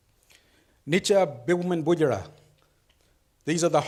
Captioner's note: speaks foreign language